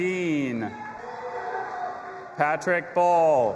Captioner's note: audience applauding and cheering